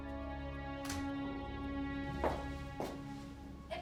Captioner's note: door shuts